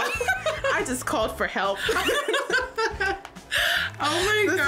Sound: laughing

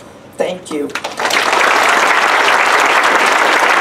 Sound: applause

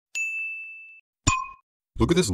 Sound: light bulb falls

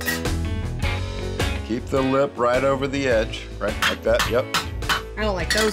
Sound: hammering

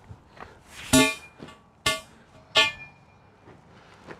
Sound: clanking

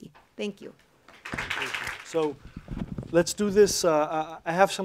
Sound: applause

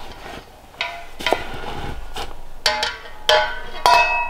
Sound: metal clanging

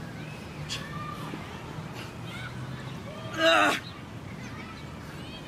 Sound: heavy breathing

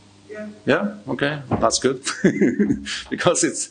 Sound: laughing

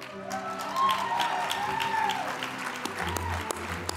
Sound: audience applauds

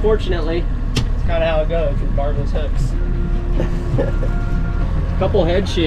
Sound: chuckles

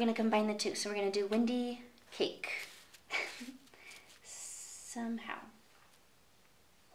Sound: chuckles

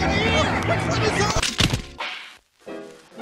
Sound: crash

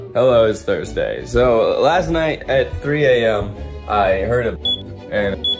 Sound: alarm beeps

